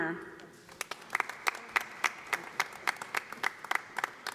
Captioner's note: audience applauding